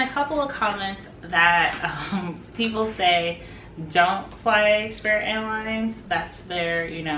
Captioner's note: chuckles